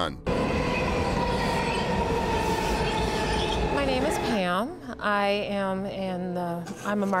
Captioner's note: train screeching along tracks